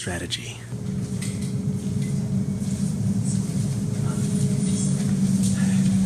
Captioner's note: loud Humming Noise